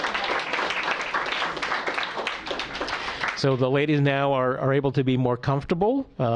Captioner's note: applause